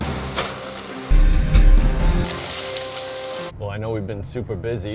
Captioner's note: bulldozer demolishing the house